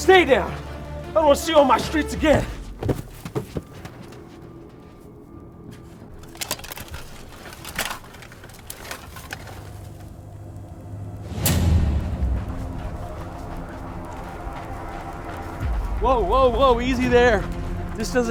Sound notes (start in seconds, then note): 5.7 suit clanking; 9.4 suspenseful music continues